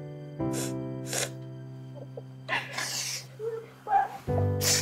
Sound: Grace crying

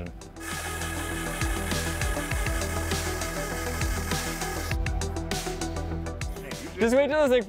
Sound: energetic music playing; engine whirring

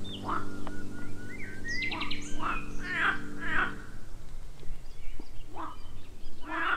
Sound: frogs in the distance

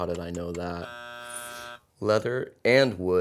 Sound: buzzing

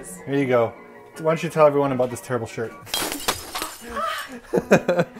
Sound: gasp

